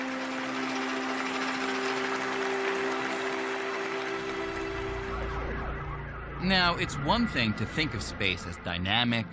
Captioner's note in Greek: χειροκροτημα